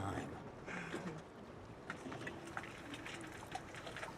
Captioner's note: Cecile chuckles